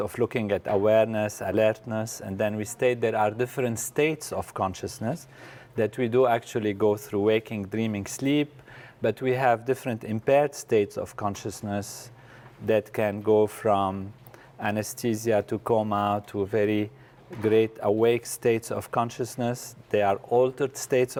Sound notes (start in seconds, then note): none